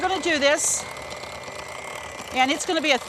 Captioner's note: mixer grinding